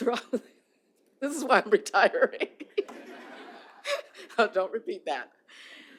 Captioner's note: laughter